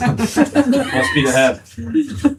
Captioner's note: laughing